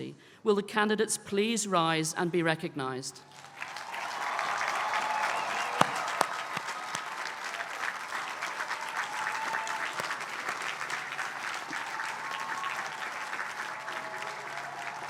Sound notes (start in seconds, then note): 3.2 applause